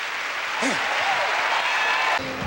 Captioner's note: applause; whew!